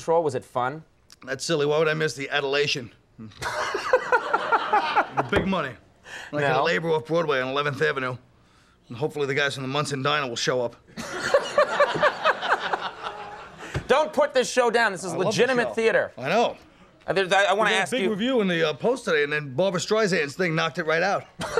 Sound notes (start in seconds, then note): 3.3 Conan laughing; 10.9 crowd laughing; 21.4 Conan laughing